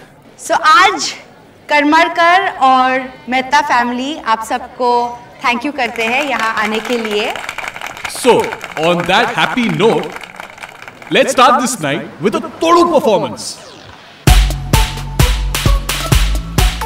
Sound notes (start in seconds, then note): 5.8 Everybody clapping